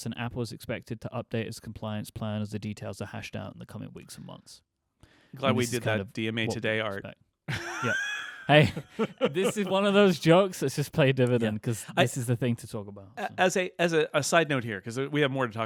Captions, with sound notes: "and Apple is expected to update its compliance plan "as the details are hashed out "in the coming weeks and months." - Glad we did that DMA Today art. (laughing) - Hey, this is one of those jokes that's just play dividend 'cause this is the thing to talk about. - As a side note here, 'cause we have more to